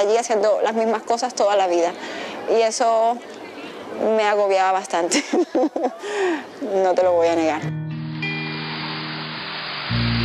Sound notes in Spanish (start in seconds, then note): 5.1 Risas